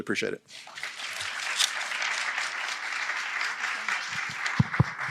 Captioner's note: audience applauding